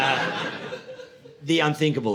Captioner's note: audience laughing